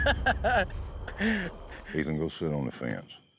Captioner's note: laughter